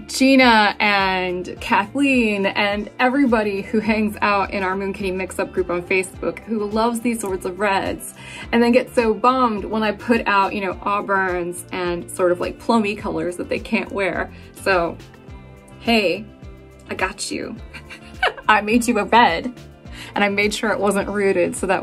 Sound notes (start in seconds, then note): 17.7 laughing